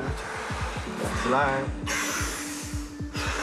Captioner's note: breaths; respirations